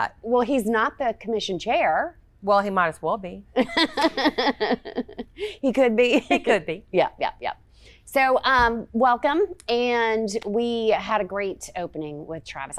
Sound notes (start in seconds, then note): 3.6 laughing